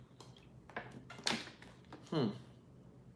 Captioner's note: bottle crinkles